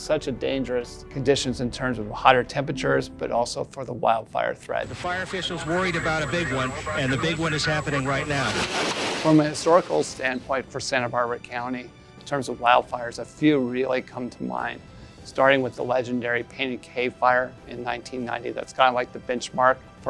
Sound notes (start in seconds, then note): 4.8 news reporter announcing